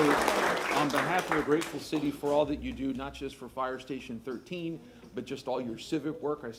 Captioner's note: applause